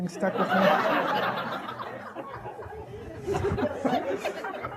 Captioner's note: audience laughing